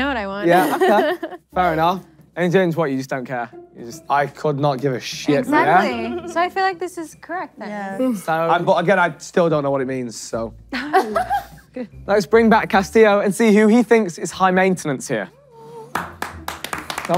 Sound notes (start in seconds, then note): 10.7 laughing; 15.8 contestants clapping